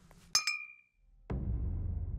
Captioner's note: clinking